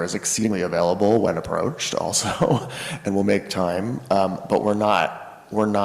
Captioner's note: laughs